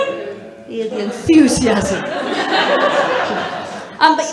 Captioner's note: murmuring